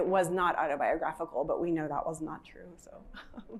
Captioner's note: laughs